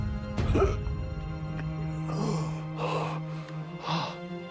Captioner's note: gagging